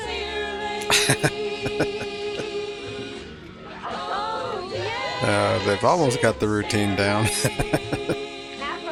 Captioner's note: laughing